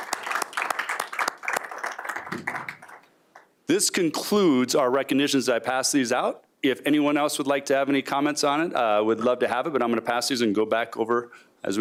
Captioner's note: applause